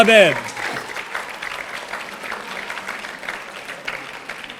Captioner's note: audience applauding